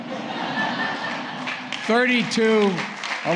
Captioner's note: laughter